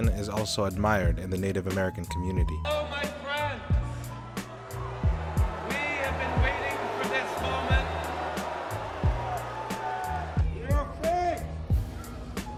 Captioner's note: boos